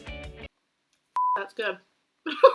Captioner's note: beep